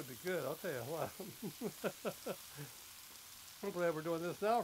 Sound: laughs

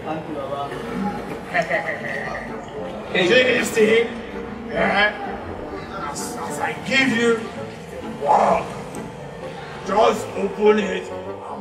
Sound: Laughing In Spanish

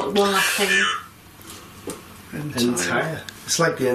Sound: voice on Ovilus

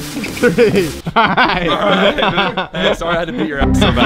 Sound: laughing

